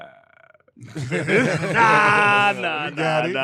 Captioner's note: laughing